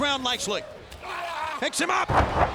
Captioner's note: Booker T shrieking